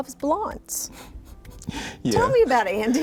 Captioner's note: chuckles